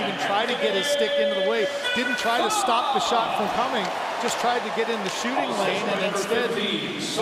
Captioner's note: cheering